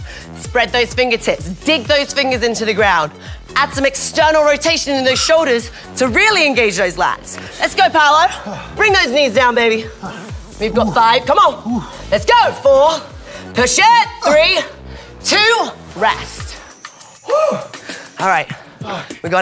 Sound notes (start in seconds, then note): 8.1 gasping; 14.6 gasping